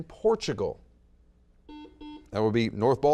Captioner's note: buzzer beeps